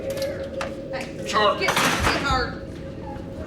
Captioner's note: clatter